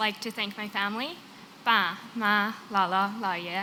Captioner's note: non-english